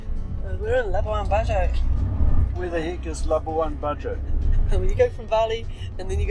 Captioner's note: laughing